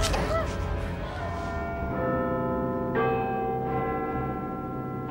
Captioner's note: Big Ben chiming